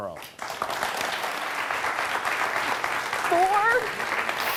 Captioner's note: audience clapping